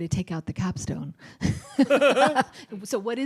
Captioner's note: laughter